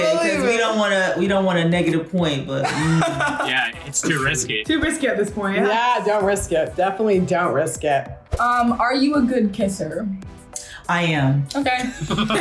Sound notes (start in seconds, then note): 2.6 laughs; 11.9 all laugh